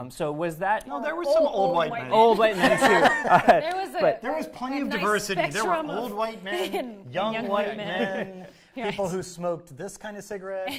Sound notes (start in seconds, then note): 2.4 laughter